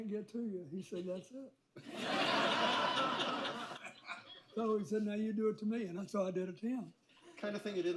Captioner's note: laughter